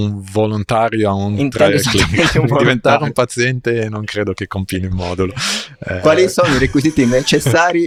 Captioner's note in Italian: risate; sbuffare